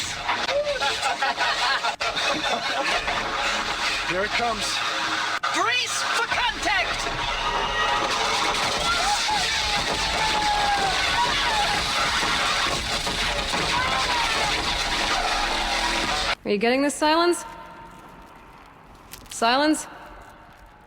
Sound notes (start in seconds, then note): 0.2 laughter; 7.6 sounds of battle